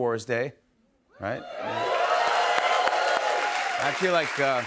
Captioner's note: cheers and applause